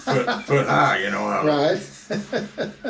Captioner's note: laughs